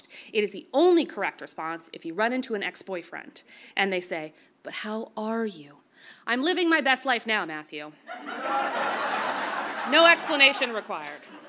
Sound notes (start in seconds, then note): 8.1 audience laughs